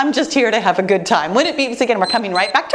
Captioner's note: timer beeps